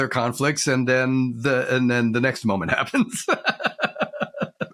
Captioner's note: laughs